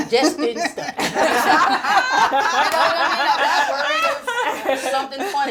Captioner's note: group laughing